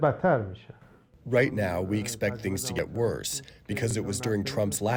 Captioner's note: through translator